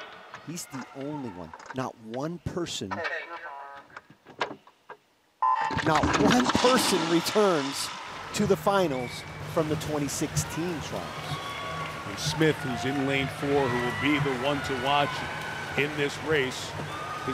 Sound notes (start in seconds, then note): 5.6 buzzer beeps; 10.9 audience cheering; 16.0 audience cheering